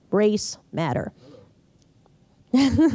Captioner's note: laughs